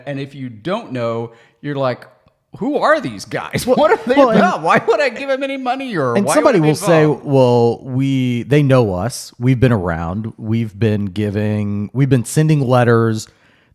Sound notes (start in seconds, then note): 3.6 chuckles